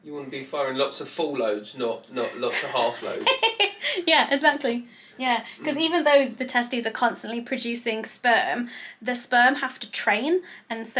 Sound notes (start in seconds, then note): 1.8 laughs